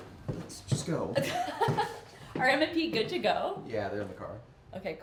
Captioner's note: riendo